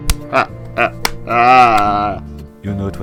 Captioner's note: Rex laughing